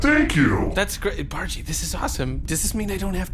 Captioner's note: quieter/whispering